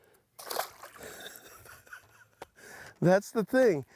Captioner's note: chuckles